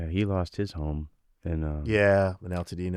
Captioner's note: laughing